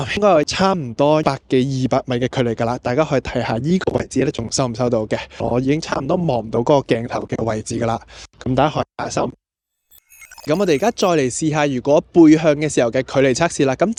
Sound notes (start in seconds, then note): 9.9 the signal is cut off